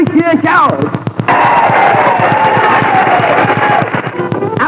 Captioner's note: Audience cheering. ACT 1